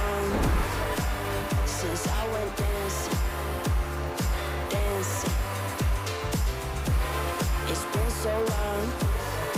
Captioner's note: cheering